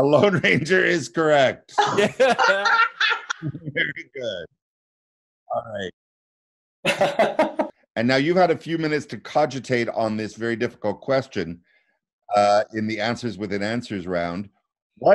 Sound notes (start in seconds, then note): 1.7 laughing; 6.8 chuckling